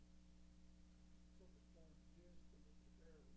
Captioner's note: chatter